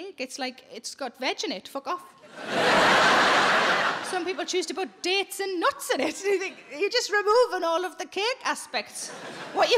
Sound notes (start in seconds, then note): 2.2 crowd laugh